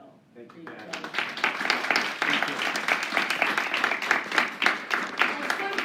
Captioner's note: applause